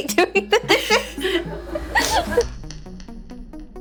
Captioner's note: laughs